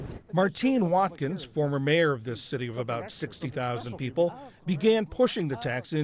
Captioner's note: voice-over